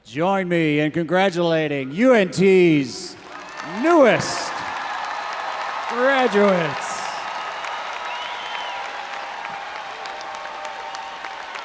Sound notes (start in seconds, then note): 4.7 faculty applauding; 7.1 audience applauding and cheering